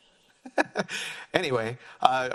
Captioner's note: laughs